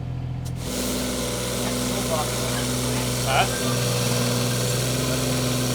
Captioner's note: excavator humming